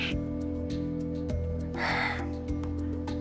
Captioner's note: sigh